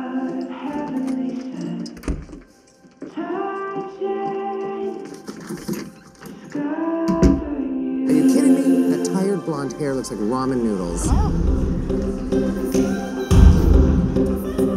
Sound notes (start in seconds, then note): 5.2 door opens, closes